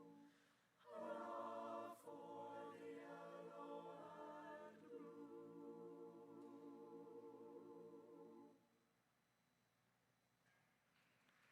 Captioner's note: applause